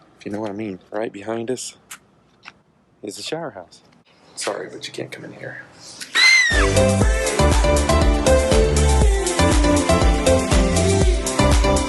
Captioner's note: ladies voice screaming